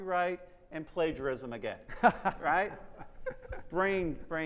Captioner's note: laughs